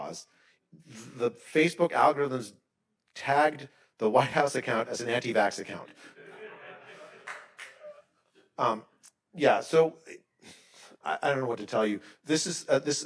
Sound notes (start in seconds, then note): 5.8 attendees laughing; 7.2 attendee clapping